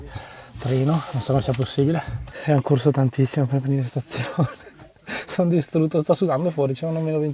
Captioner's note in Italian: risate